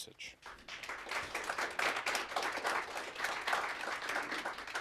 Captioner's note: audience applauds